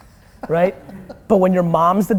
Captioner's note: laughter